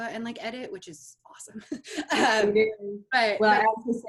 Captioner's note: laughs